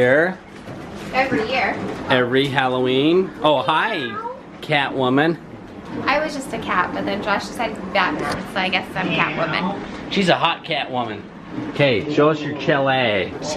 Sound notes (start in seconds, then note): 3.6 meows